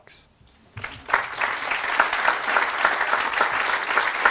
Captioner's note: audience applauding